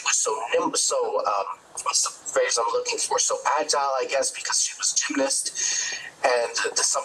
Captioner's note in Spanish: hablan en ingés